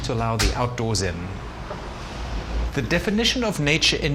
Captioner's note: traffic hums